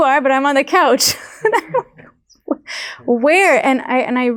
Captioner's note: laughing